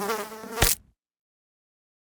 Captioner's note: fly buzzing; fly splatting